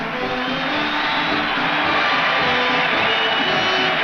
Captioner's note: crowd cheers